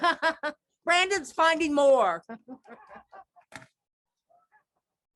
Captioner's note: laughs